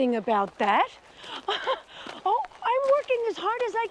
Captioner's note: laughs